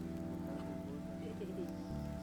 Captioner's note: indistinct chatter